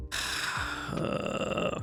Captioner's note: sighs